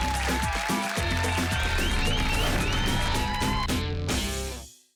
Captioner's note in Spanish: Aplausos